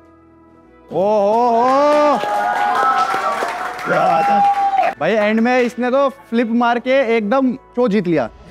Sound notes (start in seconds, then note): 1.2 cheering